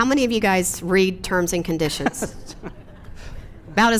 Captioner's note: laughs